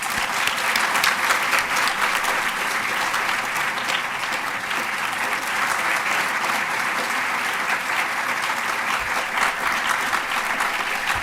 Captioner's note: applause